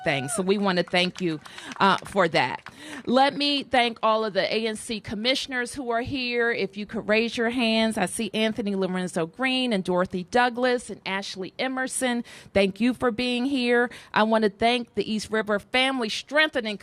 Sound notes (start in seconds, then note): 2.8 applause